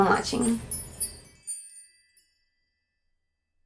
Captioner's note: wind chimes